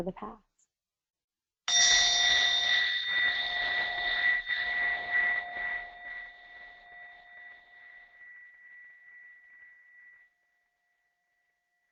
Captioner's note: bell sounds